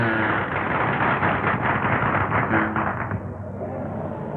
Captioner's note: applause